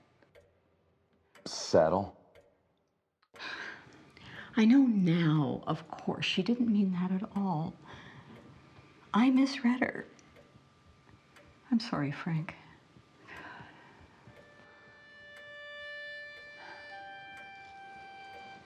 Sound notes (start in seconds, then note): 3.3 clock ticking; 13.8 clock ticking; 15.8 gentle music